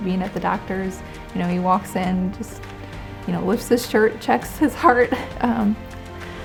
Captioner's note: chuckles